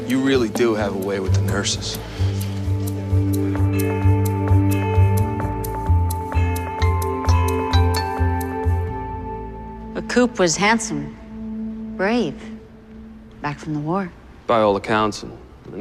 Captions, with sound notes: You really do have a way with the nurses. [bell tolling] Coop was handsome. Brave...back from the war.